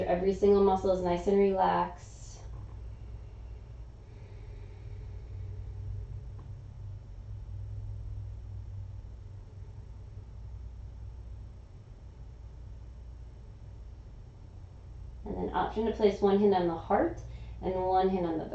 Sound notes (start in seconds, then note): 2.6 inhaling; 4.0 exhaling